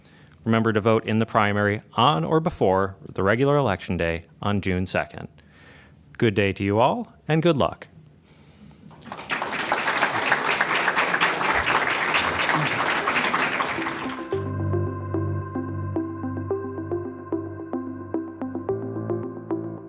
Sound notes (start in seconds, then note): 8.9 applause